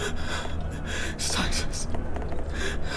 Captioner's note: horrified whisper